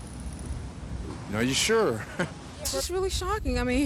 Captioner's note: chuckles